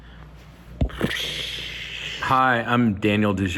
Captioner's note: blowing raspberries